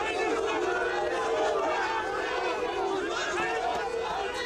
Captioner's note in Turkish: Yuhalama sesleri